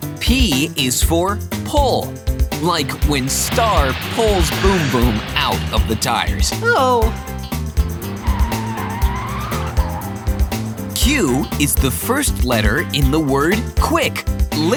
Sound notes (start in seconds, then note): 8.4 screeching